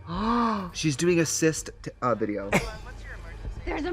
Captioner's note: gasps